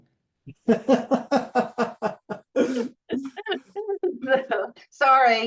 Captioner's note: laughing